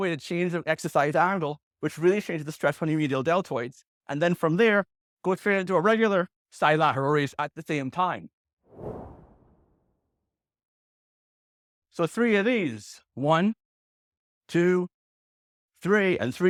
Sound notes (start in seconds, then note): 8.7 air whooshes